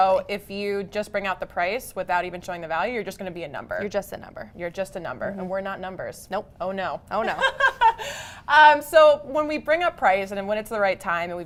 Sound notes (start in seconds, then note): 7.2 laughter